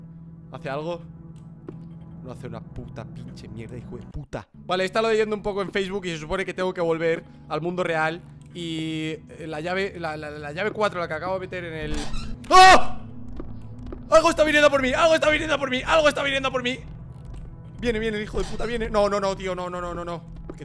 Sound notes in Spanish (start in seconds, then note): 11.8 se abre la puerta; 12.5 grito